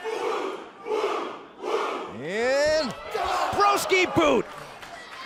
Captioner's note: fans chanting